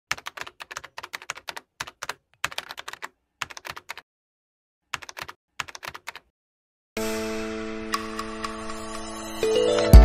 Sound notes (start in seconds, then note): 0.4 keyboard clicking